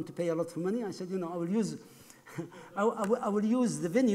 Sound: laughs

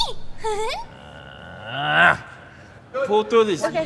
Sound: groaning; high-pitched giggling

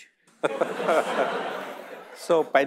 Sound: audience laughing

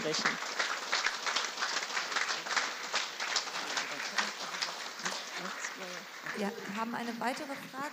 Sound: applause

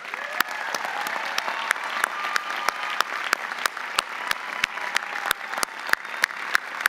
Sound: audience applauding; audience cheering

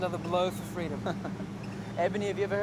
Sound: laughs

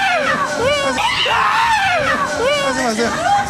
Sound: screaming

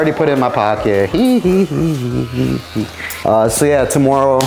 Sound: giggles

